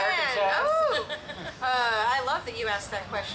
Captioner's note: laughs